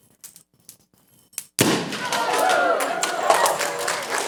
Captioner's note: explosion; applause